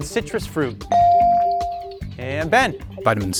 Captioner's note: bell sounding